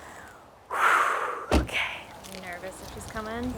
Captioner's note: exhales